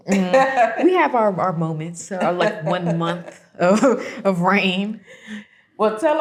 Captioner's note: laughs